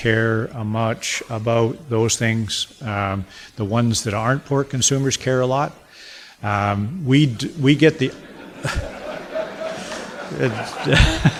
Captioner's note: audience laughter and applause